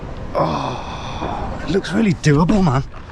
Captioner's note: groans